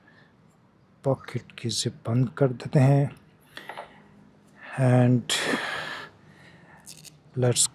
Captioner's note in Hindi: गहरी सांस लेने की आवाज़